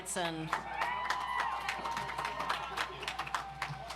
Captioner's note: audience applauds